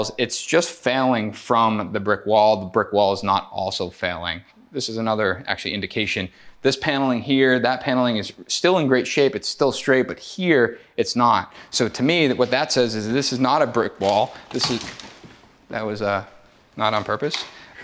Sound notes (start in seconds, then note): 15.0 wood clatters